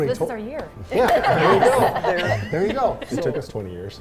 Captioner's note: all laughing